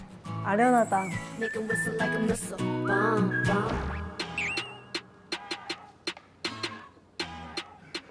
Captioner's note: starting with the whistle, goes completely wild